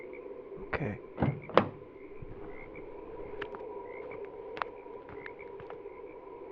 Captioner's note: door swings open, footsteps